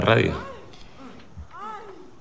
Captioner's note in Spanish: Gemidos